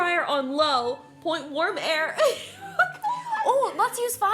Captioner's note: laughs